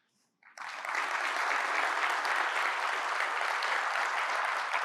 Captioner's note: audience applauding